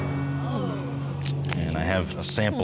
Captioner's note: audience sighs